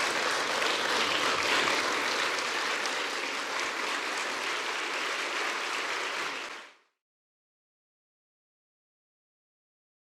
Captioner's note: applause